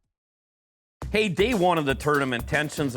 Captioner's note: voiceover